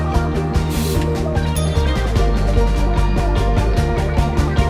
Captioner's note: bell rings